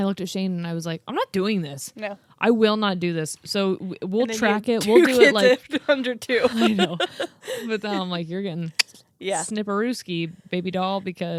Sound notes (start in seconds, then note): 8.8 clicks tongue